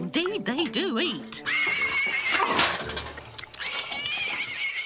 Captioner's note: piglet squealing